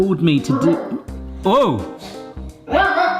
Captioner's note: dog barks